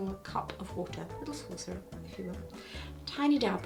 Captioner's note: mutters